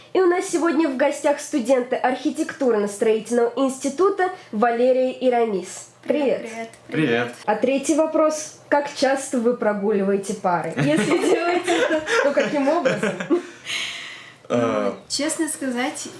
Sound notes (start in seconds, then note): 13.7 laughter